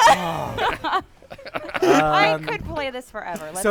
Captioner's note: laughter